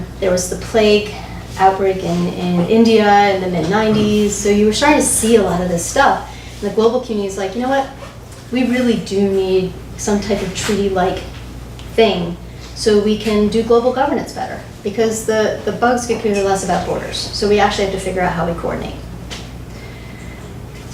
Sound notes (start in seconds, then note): none